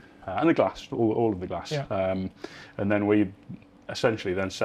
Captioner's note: none